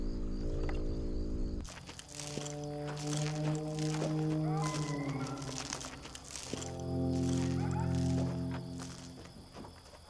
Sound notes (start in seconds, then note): 4.3 animal howling in distance